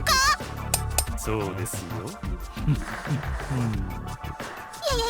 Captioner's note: intimidating chuckle